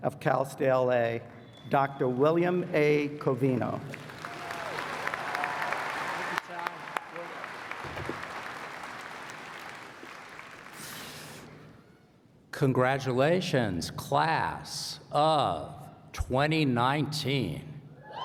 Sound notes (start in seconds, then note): 2.0 applause